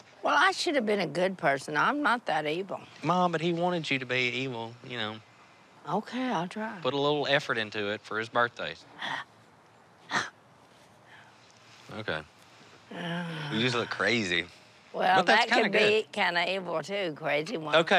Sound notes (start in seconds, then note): 11.6 growling softly